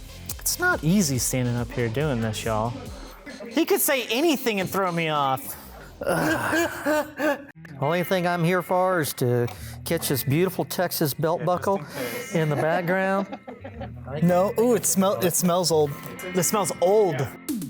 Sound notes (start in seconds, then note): 6.2 laughter; 6.3 exasperated sounds